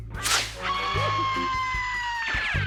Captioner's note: screams